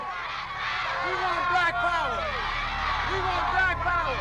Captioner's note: crowd responding, agreeing